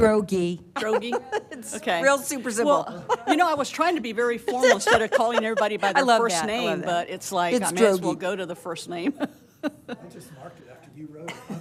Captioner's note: laughter